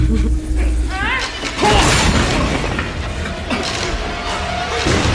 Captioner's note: grunting